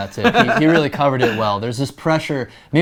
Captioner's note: laughing